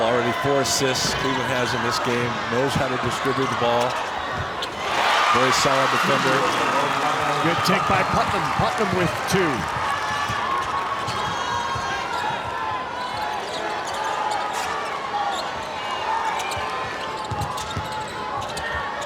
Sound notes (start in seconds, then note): 10.0 audience cheers